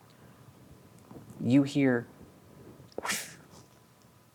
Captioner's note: makes whooshing noise